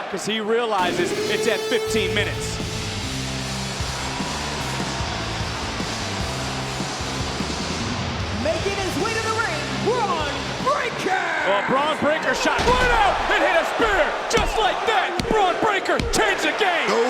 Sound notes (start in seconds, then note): 0.8 alarm blares; 3.5 crowd boos; 3.5 heavy rock music